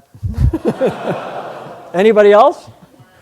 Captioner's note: laughter